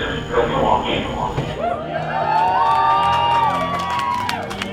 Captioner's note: crowd cheering